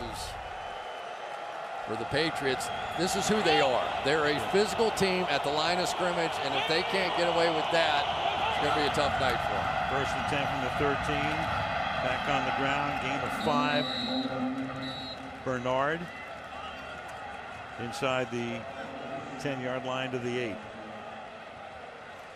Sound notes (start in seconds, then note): 13.3 whistle blows